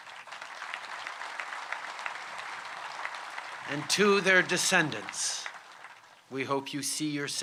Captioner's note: applause